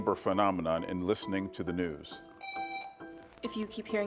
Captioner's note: buzzer buzzing